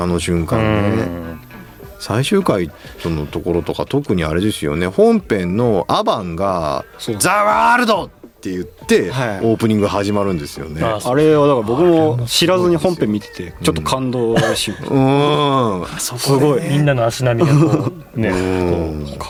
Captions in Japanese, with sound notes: あの瞬間ね。 うん。 最終回とのところとか特にあれですよね。本編のアバが ザワールドって言ってオープニング始まるんですよね。はい。 あれはだから僕も知らずに本編見ててちょっと感動し [咳払い] うん。 あ、そ、 みんなの足波がこうね、こう[笑い]